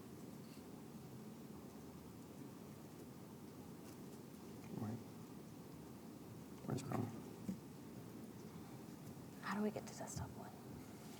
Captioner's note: whispers